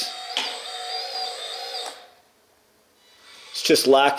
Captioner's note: excavator squeals